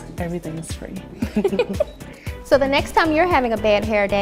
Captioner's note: both laugh